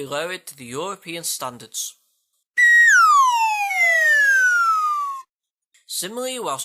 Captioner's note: whistle